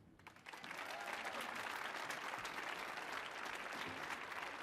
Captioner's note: audience cheering